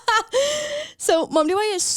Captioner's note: laughs